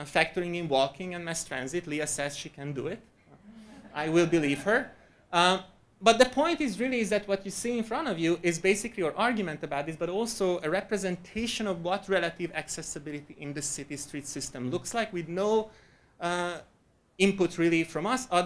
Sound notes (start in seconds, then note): 3.4 audience laughing